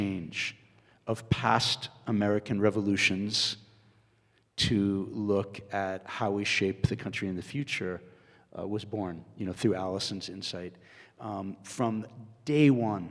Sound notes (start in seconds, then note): none